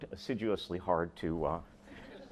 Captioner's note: laughter